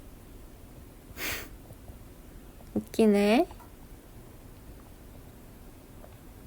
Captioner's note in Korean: 콧방귀